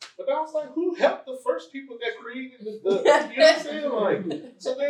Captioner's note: laughter